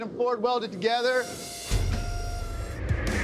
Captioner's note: machine whirring